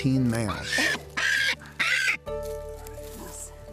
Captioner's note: kakapo screeching